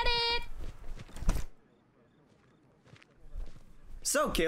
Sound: agents outside discussing

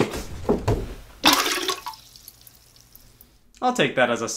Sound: water splashing

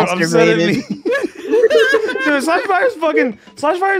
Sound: laughter

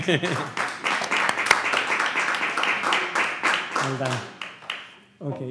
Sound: laughs; audience applauds

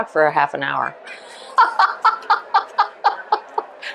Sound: laughs

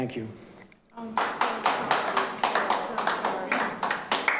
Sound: clapping

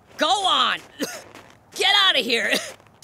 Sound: coughing

